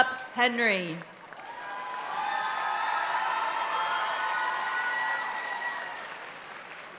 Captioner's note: audience cheering and applauding continues